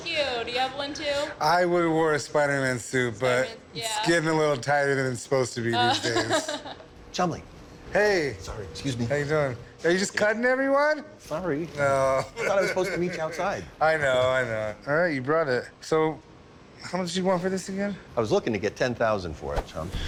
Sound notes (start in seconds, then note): 5.9 laughs